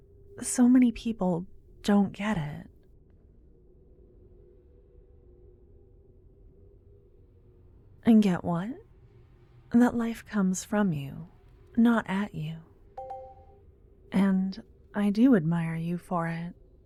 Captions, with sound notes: So many people don't get it. Get what? That life comes from you, not at you. [positive sounding chime in the distance] And... I do admire you for it.